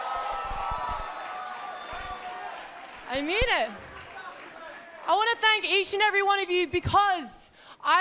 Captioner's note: cheers and applause